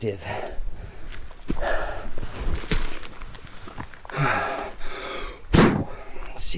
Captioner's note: sand swooshing; Pete panting; Pete blows